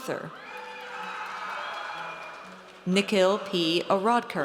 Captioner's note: audience cheers